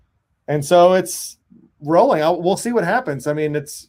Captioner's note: none